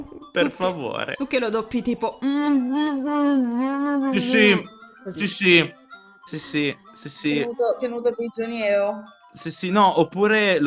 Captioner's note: muffled sounds of someone not being able to speak